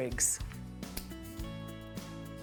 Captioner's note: snipping